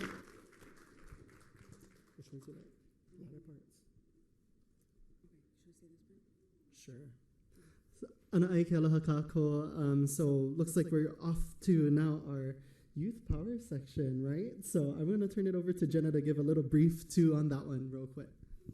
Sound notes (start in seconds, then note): 2.6 foreign language